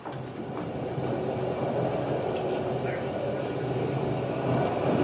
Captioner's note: storm